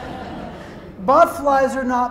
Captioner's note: laughter